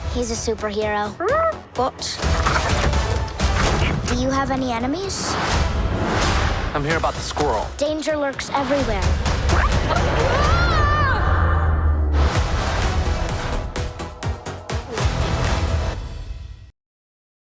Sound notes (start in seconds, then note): 2.5 dramatic music; 5.5 upbeat music; 9.9 screaming; 12.5 dramatic music